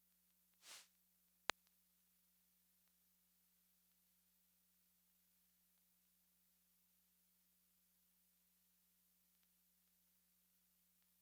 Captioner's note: silent